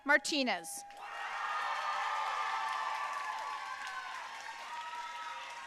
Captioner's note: audience cheering and applauding